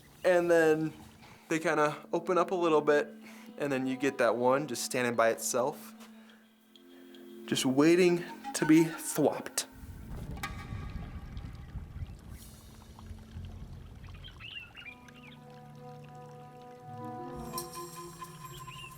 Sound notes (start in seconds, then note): 10.5 atmospheric percussive music; 14.0 birds chirping; 14.7 atmospheric percussive music